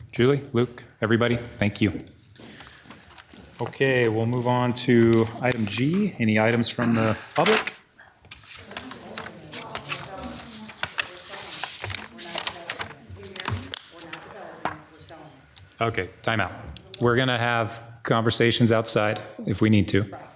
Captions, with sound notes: Julie, Luke, everybody, thank you. Okay, we'll move on to item G. Any items from the public? (audience chattering) Okay. Timeout. We're gonna have conversations outside if we need to.